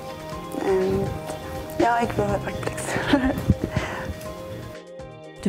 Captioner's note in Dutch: lacht